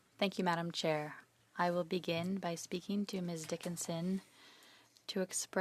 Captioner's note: speaking French